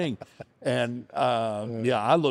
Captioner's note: chuckles